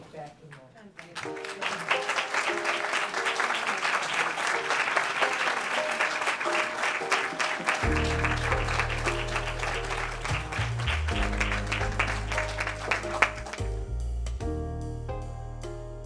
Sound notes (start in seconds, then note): 1.5 laugh; 2.2 applause